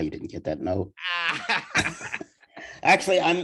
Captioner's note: laughing